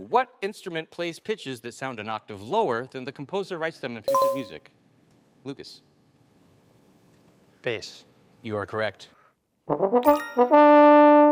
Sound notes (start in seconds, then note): 4.1 bell dinging; 9.7 trombone music